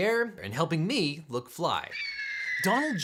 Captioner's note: eagle screeching